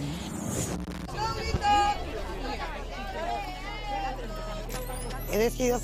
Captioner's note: shouts and noises